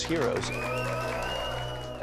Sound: applause and cheers

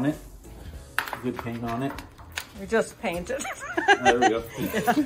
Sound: ha ha

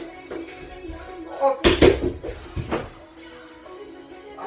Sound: crashes

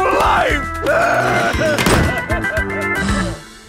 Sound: the CEO cries; sighs

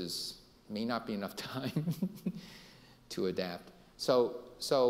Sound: laughing

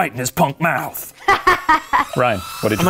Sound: laughs

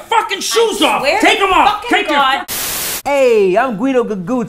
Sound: static hisses

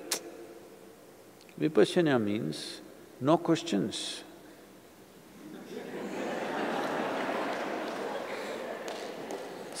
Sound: laughter

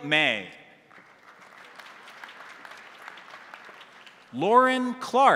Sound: crowd applauding

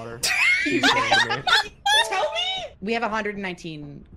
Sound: laughs

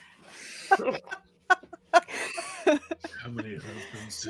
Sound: all laughing

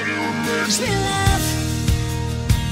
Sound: high pitch

